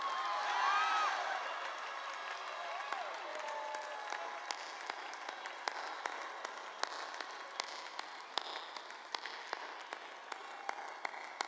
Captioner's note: applause